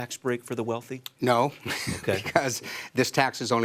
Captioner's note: laughs